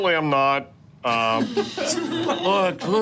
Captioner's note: group laughing